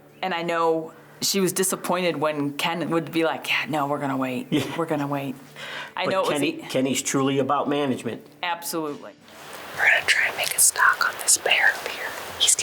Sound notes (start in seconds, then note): 4.5 giggling